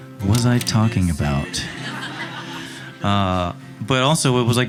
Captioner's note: audience laughing